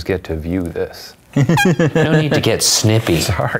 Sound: tiny little honk

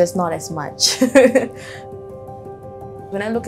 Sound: laughs

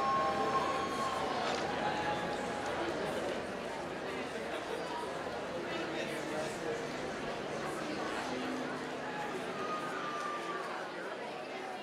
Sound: applause

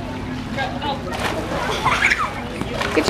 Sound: splash; laughs

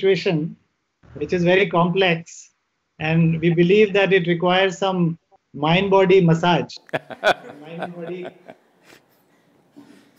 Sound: Sadhguru laughs

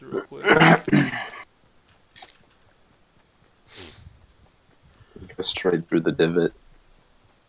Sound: throat clear; sniffle

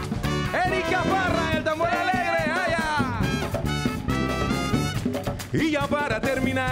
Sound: speaks in Spanish; singing in Spanish

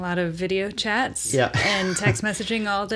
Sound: laughs

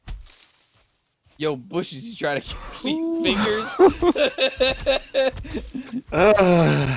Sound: laughter

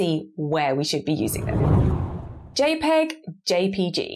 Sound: screen whooshes

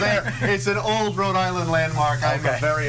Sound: laughter

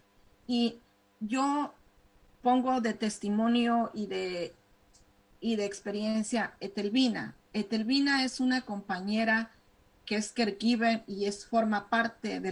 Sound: speaking spanish

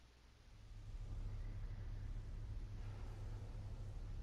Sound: none

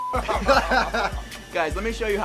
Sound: laughing

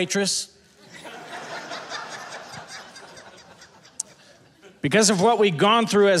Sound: audience laughing

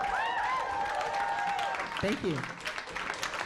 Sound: applause

